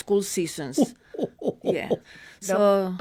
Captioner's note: chuckles